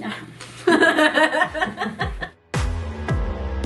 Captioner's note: laughing